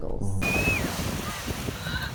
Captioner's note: squeals; chatter